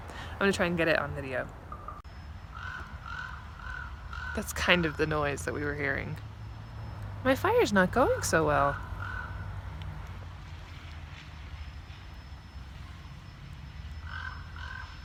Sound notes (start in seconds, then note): 2.4 bird in background; 8.7 bird